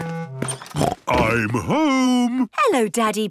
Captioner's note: snort